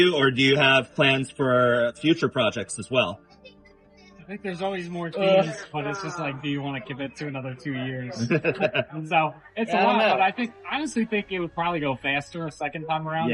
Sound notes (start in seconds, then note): 7.8 laughs